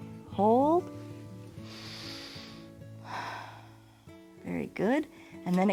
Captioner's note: inhales and exhales